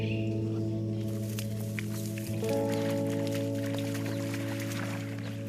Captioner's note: walking through water